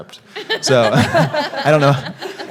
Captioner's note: all laughing